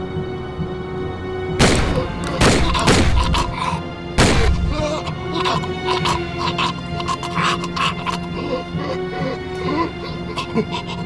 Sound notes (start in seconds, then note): 1.6 gun shots; 5.3 gurgling and gasping